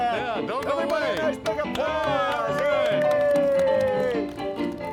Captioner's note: clapping